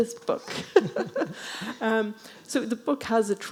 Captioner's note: chuckling